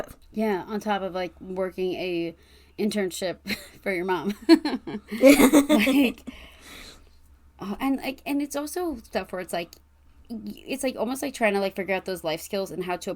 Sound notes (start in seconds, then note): 4.4 laughs